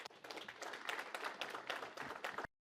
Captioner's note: applause